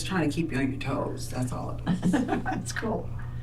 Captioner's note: laughter